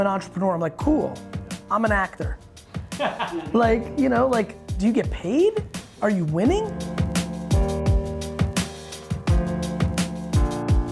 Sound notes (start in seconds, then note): 2.9 laughing; 7.6 piano music